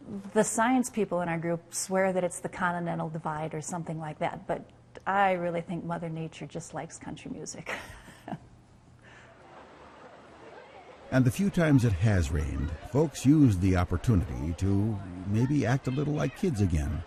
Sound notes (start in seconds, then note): 7.7 laughs; 11.2 voiceover